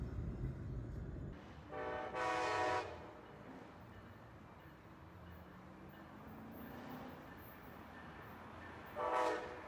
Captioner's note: train horn